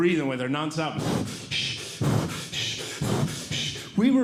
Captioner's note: breathing Heavily